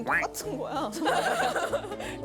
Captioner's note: laughing